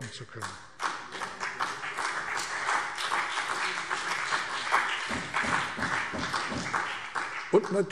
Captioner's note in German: Beifall CDU und BÜNDNIS 90/DIE GRÜNEN